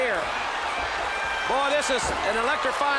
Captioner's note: crowd chatter